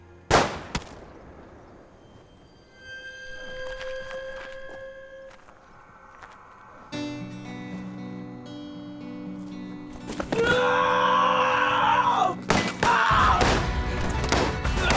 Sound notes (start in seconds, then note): 0.3 gunshot; 10.3 screaming; 14.0 gunfire